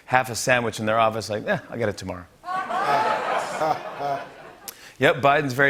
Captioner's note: laughter